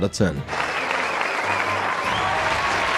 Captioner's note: applause